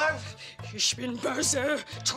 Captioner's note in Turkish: Almanca konuşma